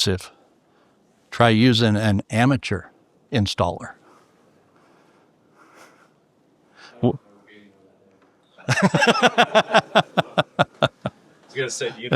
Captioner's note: laughing